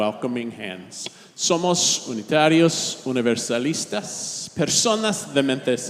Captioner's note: all speaking in Spanish